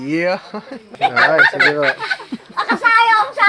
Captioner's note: laughs